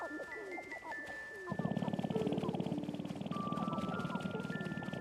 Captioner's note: resonant rattling